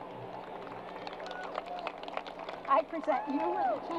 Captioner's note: crowd applause